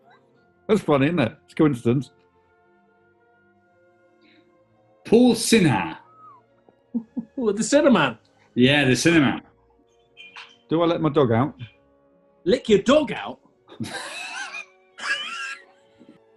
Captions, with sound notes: That's funny, isn't it? That's a coincidence. Paul Sinha. [SNIGGERING] [CHUCKLING] Ooh, the Sinnerman? Yeah, the Sinnerman. Do I let my dog out? Lick your dog out‽ [GIGGLING]